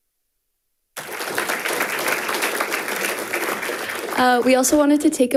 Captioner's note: audience applauding